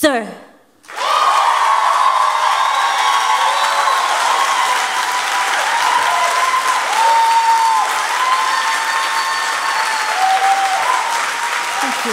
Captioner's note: cheers and applause